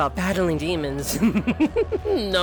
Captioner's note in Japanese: 笑う